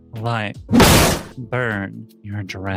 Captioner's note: door slam